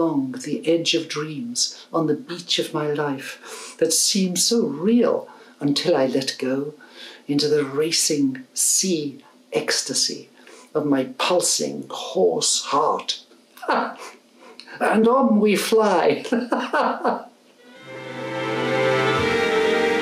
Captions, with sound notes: along the edge of dreams, On the beach of my life that seems so real until I let go, Into the racing sea, ecstasy, of my pulsing horse heart Ha! And on we fly! (LAUGHS)